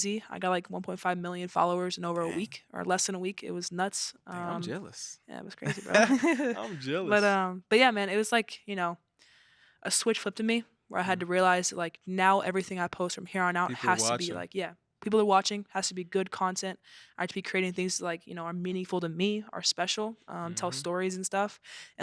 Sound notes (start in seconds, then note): 5.6 both chuckle